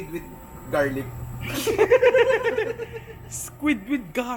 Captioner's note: laughter